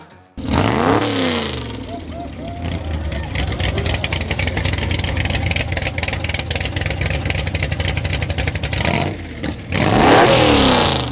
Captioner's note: engine revving